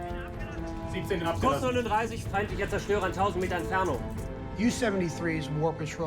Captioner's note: speaking in foreign language